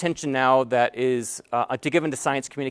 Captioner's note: none